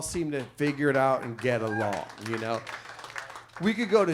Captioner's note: audience applauds